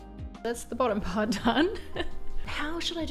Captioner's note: gentle music; laughs